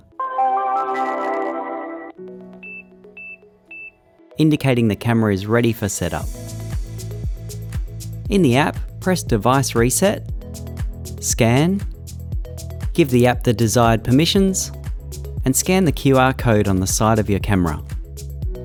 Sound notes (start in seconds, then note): 0.1 gentle chiming music; 2.6 device beeping; 6.7 lively music